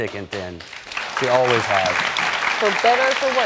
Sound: audience clapping

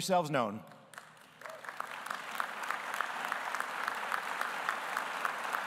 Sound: audience applauding

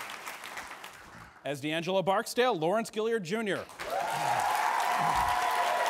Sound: audience applauds

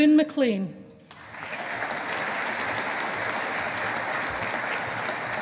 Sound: audience applauding

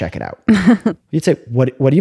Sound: laughter

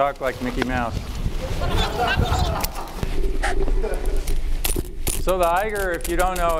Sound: laughter

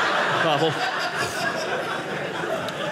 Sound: audience laughing

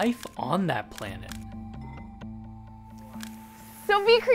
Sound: camera clicks

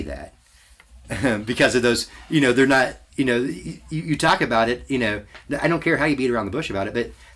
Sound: chuckles

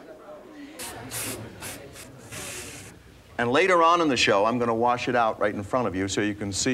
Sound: spraying

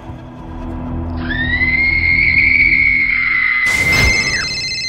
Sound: pained screaming; beeping ring

